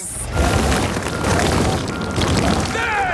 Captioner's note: rock crumbling